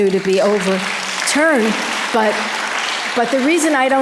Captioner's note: audience applause